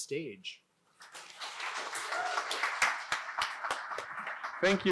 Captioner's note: audience applauding